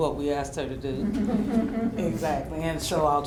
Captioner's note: laughter